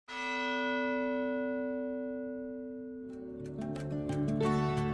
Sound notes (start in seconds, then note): 0.1 bell